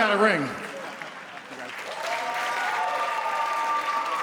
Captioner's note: audience applauding